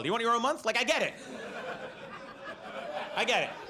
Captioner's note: audience laughs